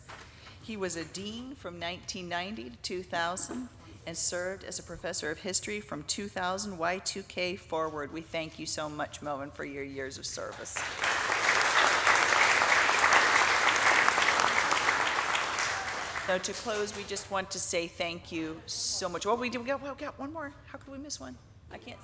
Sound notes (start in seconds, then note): 10.7 audience applauding